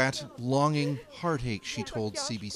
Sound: speaking foreign language

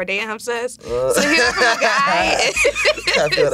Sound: both laugh

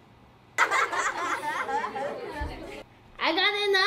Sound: laughing

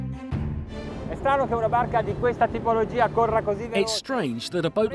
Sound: host speaks in foreign language; voiceover

